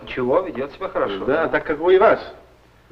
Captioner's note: foreign language